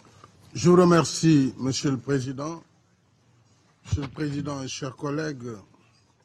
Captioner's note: President Sall speaks foreign language